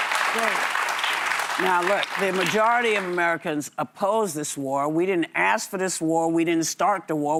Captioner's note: applause